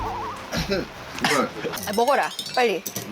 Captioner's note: coughs